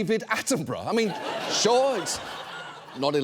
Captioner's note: audience laughs